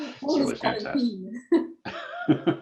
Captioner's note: laughter